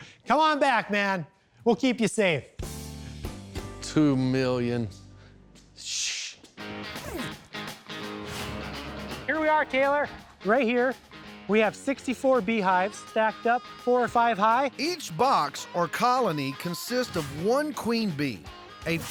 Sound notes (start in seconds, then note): 6.9 zipping